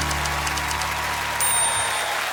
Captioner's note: bell dings; applause